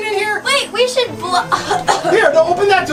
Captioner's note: coughing